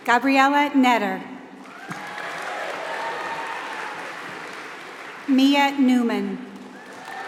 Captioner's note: applause